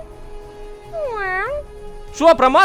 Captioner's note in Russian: мяукнул